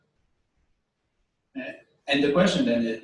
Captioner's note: pause